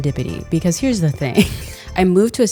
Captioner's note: laughing